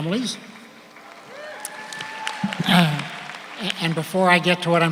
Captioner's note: audience applauds